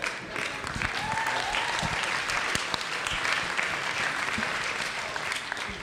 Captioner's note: audience applauds; audience cheering